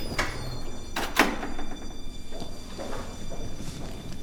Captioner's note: door shuts; footsteps retreat